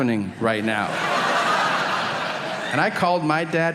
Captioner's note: audience laughing